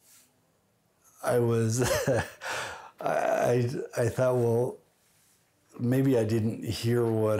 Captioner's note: laughs